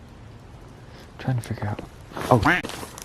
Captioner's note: quack